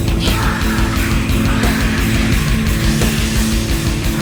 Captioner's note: hissing